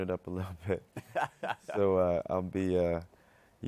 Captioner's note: laughs